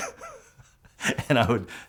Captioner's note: laughs